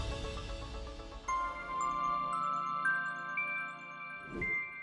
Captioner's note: chiming bells